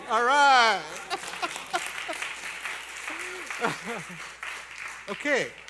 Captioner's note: applause